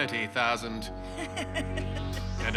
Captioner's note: laughs